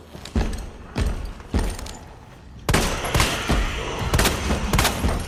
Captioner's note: gunshots popping and echoing